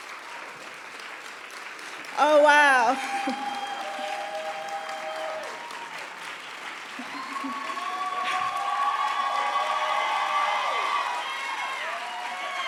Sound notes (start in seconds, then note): 3.3 audience cheering and applauding